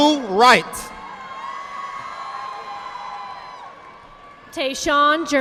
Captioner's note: audience applauding